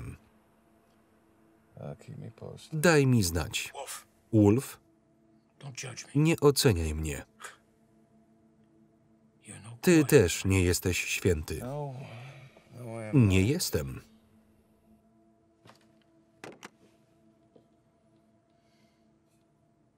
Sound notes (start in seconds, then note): 7.0 scoffs